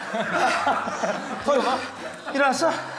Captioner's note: panting